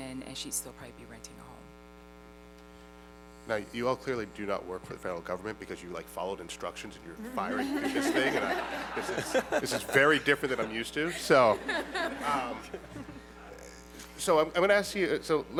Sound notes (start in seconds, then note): 7.3 laughter